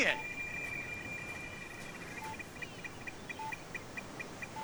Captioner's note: beeping